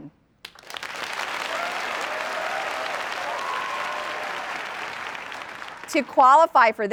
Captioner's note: applause